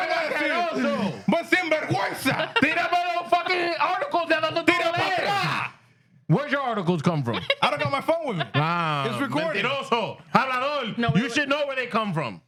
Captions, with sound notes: (Speaking Spanish) Where's your articles come from? I don't know my phone with me. It's recorded also. (Speaking Spanish) You should know where they come from.